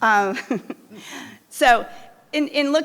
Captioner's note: chuckling